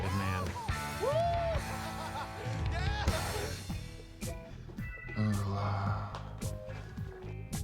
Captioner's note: laughing